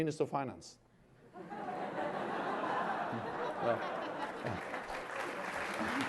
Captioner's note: laughter